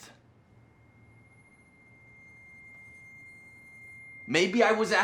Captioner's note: screeching high-pitched tone